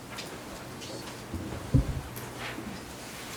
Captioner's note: none